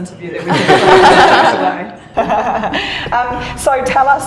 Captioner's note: laugher